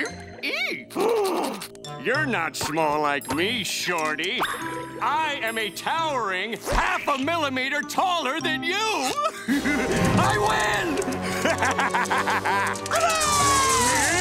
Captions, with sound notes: [gasps] You're not small like me, Shorty! I am a towering half-a-millimeter taller than you! [laughing] I win! [laughing] Hooray!